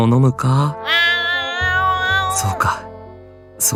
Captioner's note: meow~~ Meow~~